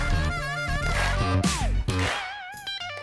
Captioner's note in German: Rhythmisches Klatschen